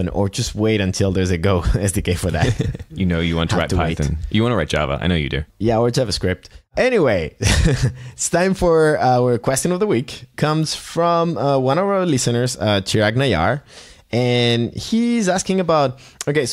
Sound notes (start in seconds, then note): 2.3 chuckling; 7.5 laughs